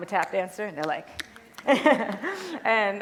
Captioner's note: tapping